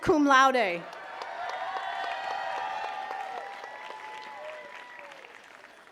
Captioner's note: attendees cheering and clapping